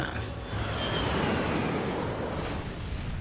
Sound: plane dropping; plane crashing

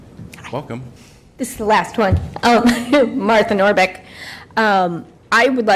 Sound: laughter

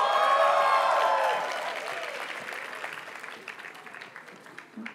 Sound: audience cheers and applauds; graduates chant

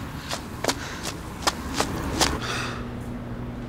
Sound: Paul pants in exhaustion

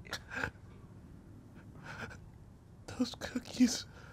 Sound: Baba gasps

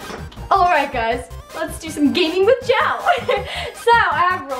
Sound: laughs

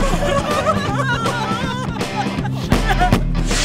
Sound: more crying

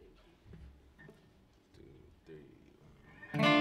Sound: quietly

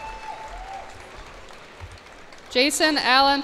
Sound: cheers and applause

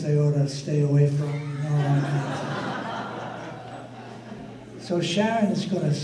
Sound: audience laughter

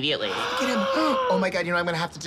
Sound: both gasping

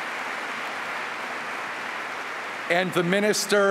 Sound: applause

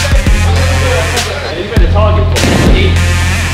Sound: lads shouting

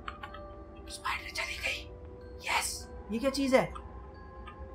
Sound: whispers

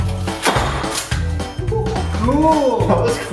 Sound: laughing

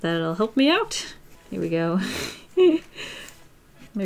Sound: laughs

